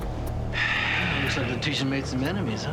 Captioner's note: sighing